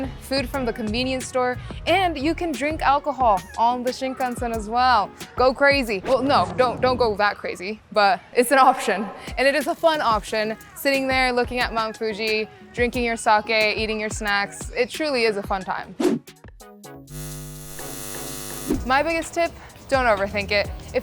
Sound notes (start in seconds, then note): 17.0 upbeat music; 17.1 eyes buzzing